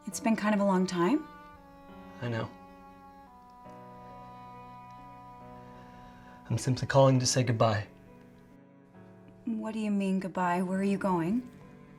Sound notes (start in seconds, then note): none